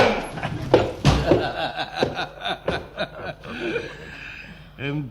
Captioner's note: laughs